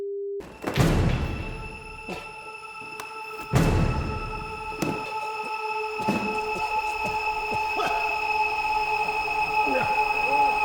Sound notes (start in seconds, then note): 2.1 dramatic music; 7.1 Danny coughs